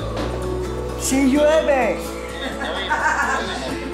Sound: laugh

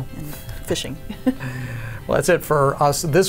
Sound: both chuckle

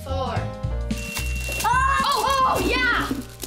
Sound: beep

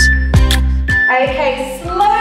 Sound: beeping; exhaling

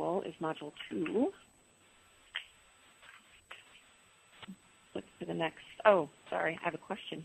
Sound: pause

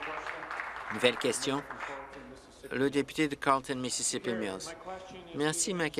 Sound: applause

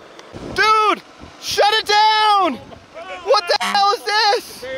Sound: honk

